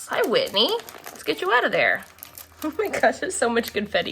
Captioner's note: laughs